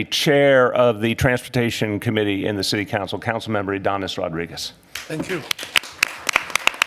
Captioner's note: applause